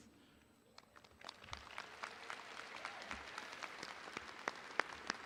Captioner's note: audience applauding